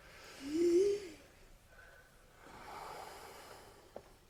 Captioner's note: all breathing deeply